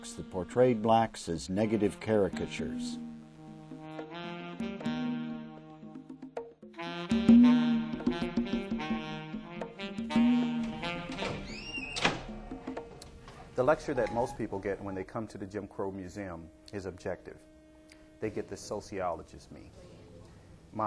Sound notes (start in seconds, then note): 4.1 jazz music; 10.1 door creaking